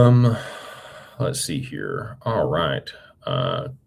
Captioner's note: sighs